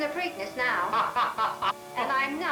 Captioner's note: laughs